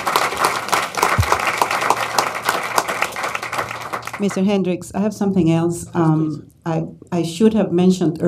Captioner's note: applause